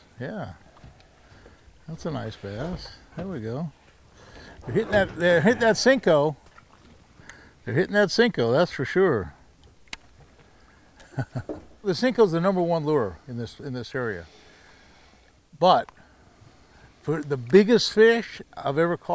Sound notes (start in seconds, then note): 11.0 chuckling